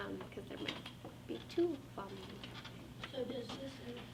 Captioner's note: faintly speaking